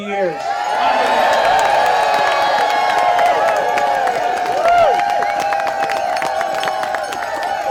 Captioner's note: audience cheering